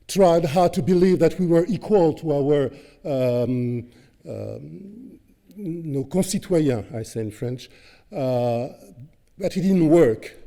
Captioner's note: french